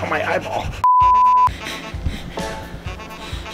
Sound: beep

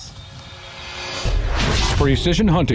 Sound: dramatic whoosing; cymbal rolling

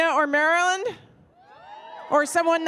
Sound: audience cheering

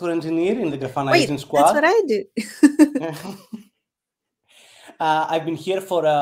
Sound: chuckles

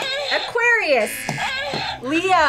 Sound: buzzer moans

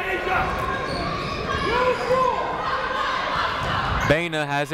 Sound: people shouting in the crowd

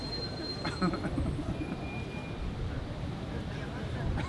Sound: man laughs

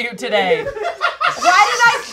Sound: raucous laughter from offscreen

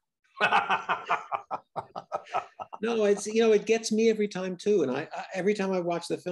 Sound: laughing

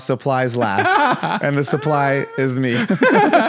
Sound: laughs

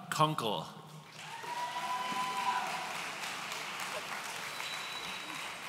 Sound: audience cheering

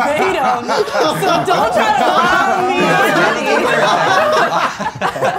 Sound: all laughing heartily

